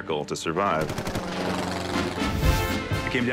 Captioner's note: military music; airplane roars past